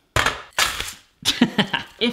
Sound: crash; laughing

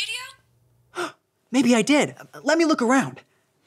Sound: gasps

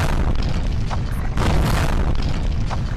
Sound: boom!!; boom!!!

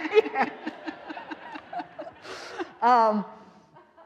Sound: all laughing

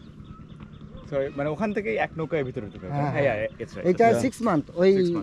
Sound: speaking local language

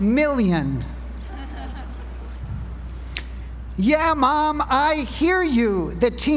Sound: laugh

